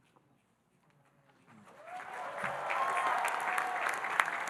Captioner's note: audience cheering and applauding